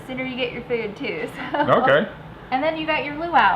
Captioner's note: giggling